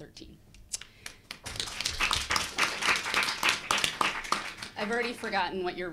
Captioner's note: audience applauding